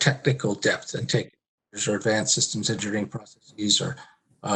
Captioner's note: murmurs